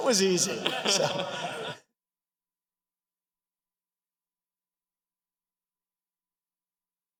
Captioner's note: applause